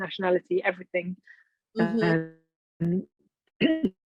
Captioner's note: clearing throat